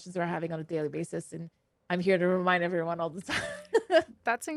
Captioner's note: laughs